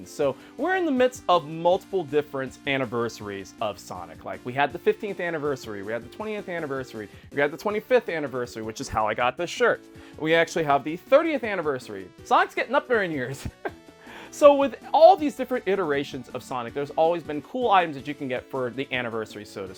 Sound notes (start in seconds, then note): 13.4 laughs